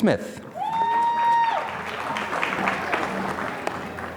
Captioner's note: applause